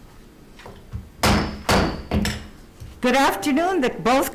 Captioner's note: gavel thumps